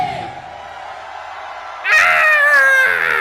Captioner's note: audience cheering; laughing